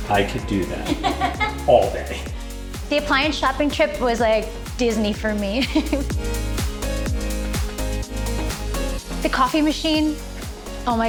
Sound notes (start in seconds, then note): 0.0 upbeat music continues; 0.8 laughs; 6.5 laughs